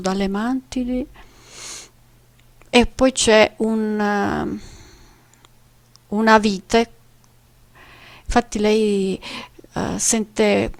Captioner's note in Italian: sbuffare